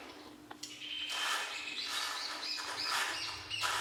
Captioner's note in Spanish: canto de pájaros